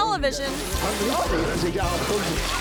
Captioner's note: zookeeper speaking German; water spatters; zookeeper speaking German